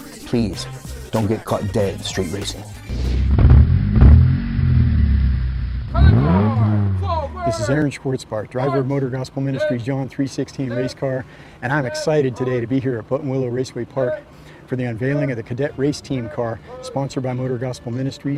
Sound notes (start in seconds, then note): 2.8 vehicle engine revving